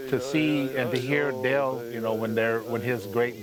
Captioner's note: pat